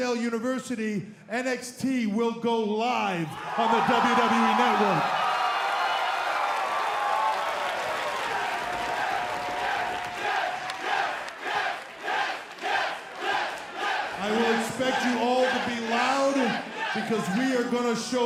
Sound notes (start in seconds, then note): 4.9 crowd cheering